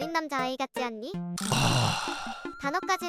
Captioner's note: sigh